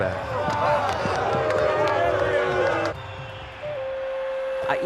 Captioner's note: crowd booing